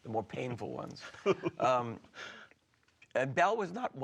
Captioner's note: laughs